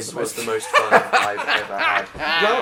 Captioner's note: Dan and Phil laughing